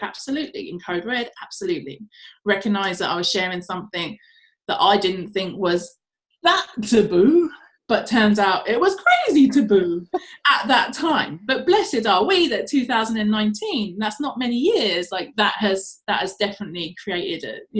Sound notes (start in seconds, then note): none